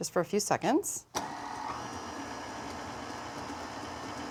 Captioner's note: mixer whirring